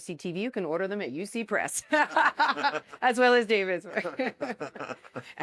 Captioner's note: laughter